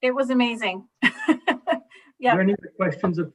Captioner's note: councillor laughs